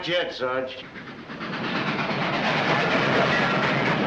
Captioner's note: train chugging